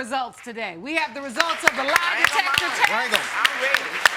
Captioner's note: audience clapping